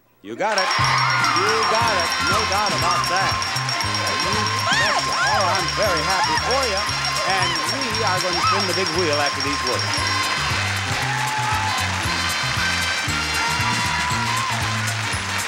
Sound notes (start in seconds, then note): 0.9 bells dinging; 3.7 lively jazz music; 6.4 exclaiming; 10.0 audience cheering